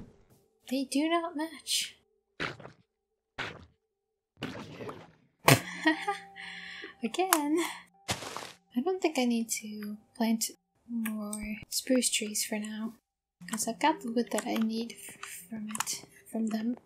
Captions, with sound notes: They do not match! (laughter) Again? I don't think I need to plant more spruce trees for now Cause I've got the wood that I need f-, from it. From them